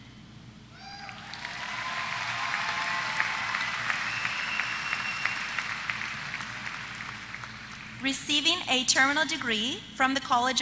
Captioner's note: applause